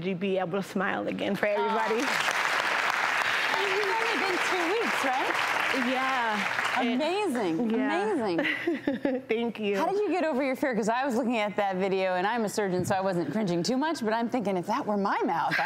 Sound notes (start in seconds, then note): 1.5 crowd cheers; 7.9 laughs